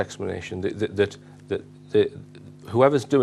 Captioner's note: stammering